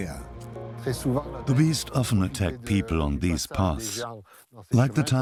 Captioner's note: French dubbed into English